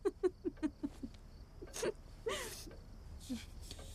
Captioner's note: Elizabeth stifles a laugh